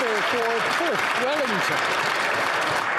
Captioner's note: some Applause